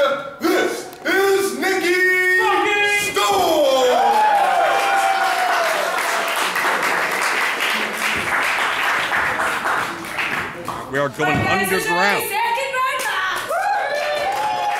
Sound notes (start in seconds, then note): 4.0 applause